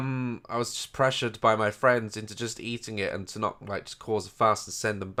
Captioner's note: none